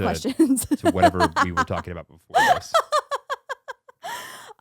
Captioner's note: laughing